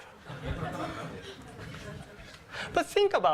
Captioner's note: laughter